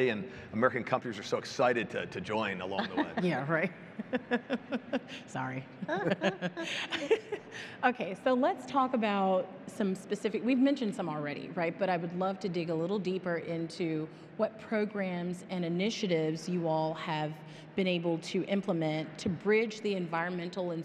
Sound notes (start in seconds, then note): 5.8 chuckling; 5.8 all panelists chuckling